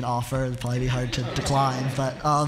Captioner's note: laughter